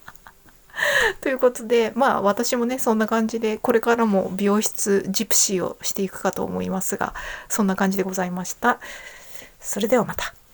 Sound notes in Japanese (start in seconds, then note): 0.0 笑い; 0.7 息をのむ音